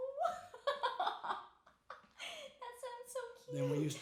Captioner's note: laughing